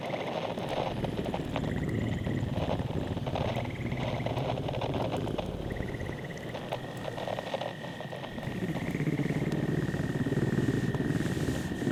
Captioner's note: purrs